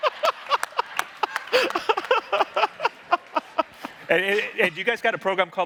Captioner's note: everyone laughing